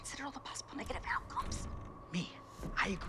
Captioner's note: whispering